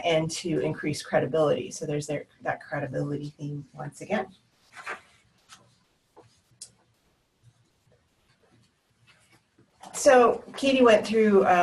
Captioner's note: pause